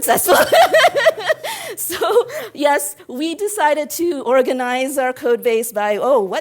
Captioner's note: laugh